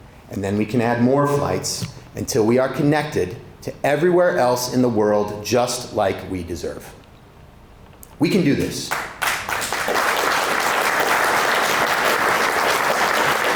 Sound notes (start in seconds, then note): 8.9 audience applauding